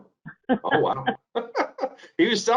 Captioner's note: laughs